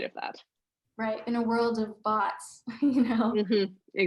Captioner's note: giggling